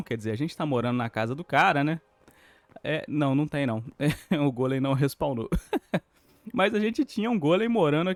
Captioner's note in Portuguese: risadas